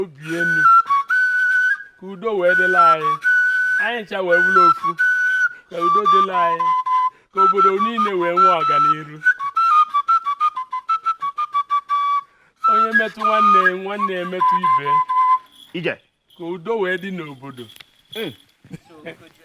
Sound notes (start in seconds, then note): 0.2 flute; 6.9 flute; 9.3 flute; 16.4 exclamation